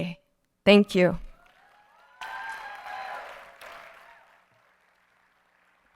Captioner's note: audience cheering